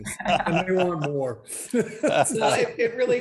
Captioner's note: laughs